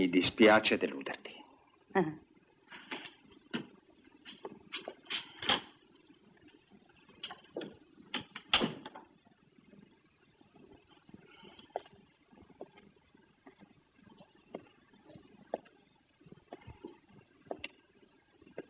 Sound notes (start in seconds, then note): none